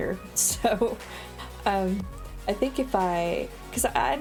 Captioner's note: laughs